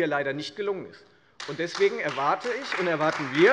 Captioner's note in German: Beifall Freie Demokraten und SPD